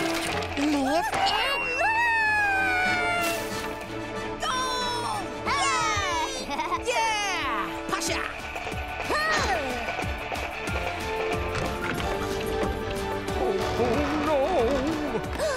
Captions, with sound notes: ...and launch! - Goal! (cheering) - Yeah! Pascha! (grunting) - Ho-ho no... (gasps)